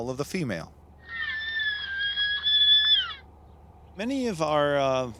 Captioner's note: female elk calling